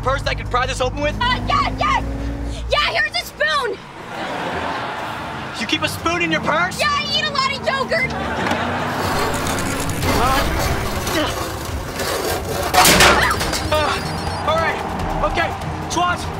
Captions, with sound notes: - I could pry this open with? - Er... yeah, yeah! Yeah, here's a spoon! [laughing] - You keep a spoon in your purse? - Yeah, I eat a lot of yoghurt! [laughing] [groaning] Er... alright, OK, Schwoz?